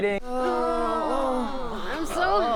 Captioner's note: groans